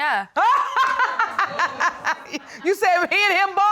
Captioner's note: Judge Lake laughing